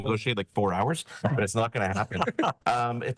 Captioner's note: laughing